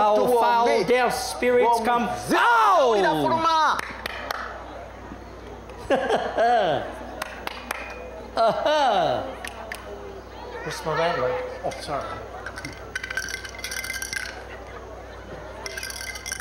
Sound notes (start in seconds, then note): 3.7 claps hands; 5.8 laughter; 7.1 claps hands; 9.5 snaps fingers